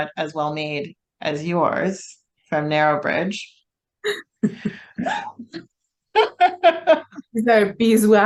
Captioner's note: both laughing